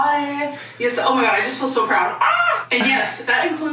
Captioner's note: screams